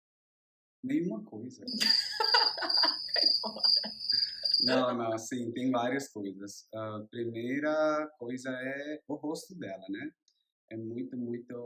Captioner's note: laughs